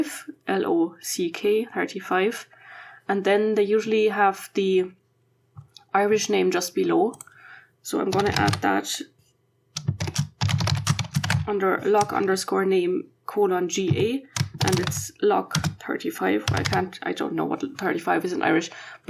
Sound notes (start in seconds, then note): 9.7 typing